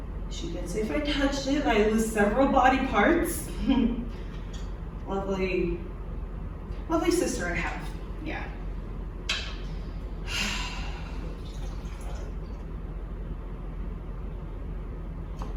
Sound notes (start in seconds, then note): 11.2 drink pouring